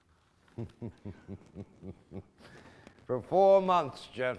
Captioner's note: laughing